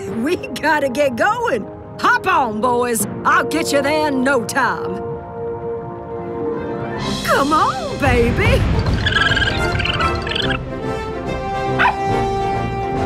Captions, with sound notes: We got to get going, hop on, boys! I'll get you there in no time. Come on, baby. [squeaking]